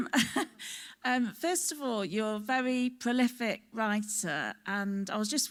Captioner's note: laughs